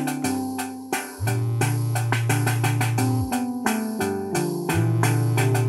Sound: cellphone vibrates

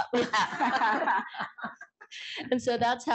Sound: laughter

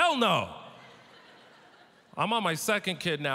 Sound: audience laughter

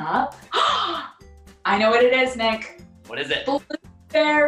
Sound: gasp

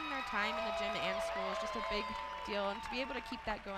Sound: audience cheers in the background

